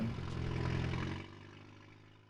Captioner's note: truck engine revving